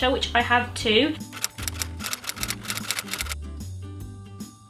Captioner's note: typewriter sound effect